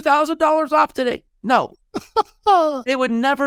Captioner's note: laughing